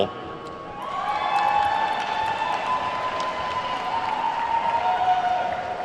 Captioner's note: attendees whooping and clapping